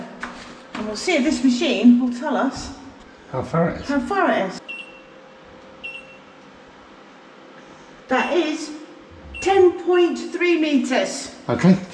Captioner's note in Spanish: pitido